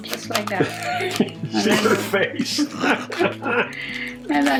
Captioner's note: laughing